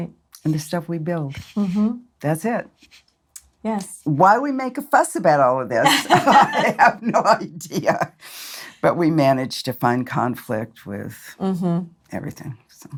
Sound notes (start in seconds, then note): 5.8 laughs